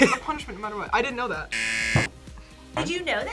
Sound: buzzer

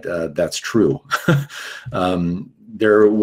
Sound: chuckles

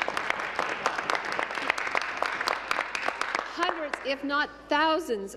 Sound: applause

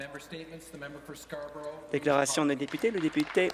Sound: applause

